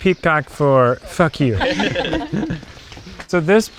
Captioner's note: everyone laughs